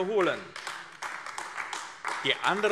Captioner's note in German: Beifall AfD